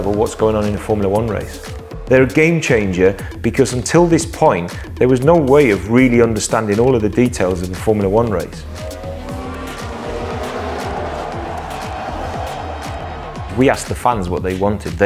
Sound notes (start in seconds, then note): 8.7 dramatic music; 8.7 engines revving